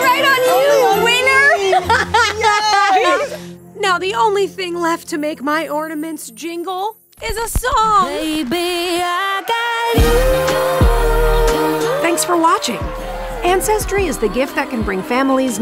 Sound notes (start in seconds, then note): 0.0 laughs; 0.3 festive music